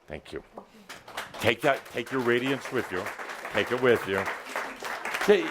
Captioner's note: applause